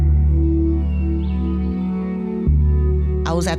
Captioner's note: birds chirping